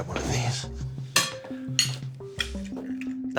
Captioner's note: egg cracking